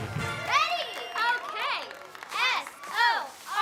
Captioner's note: crowd cheers and claps